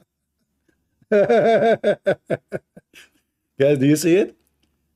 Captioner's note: Ketawa